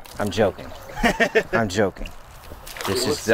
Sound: laughs

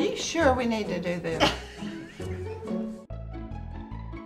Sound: laughing; uptempo music

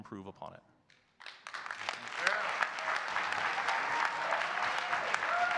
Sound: audience cheering and clapping

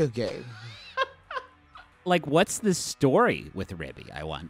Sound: laughing

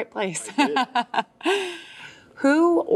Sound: laughs

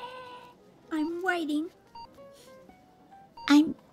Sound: sniff

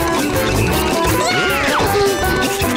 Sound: screaming

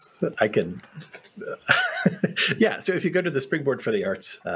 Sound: laughs

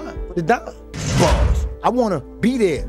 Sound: bars slamming

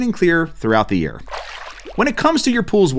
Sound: water whirling

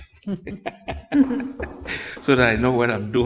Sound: laughing

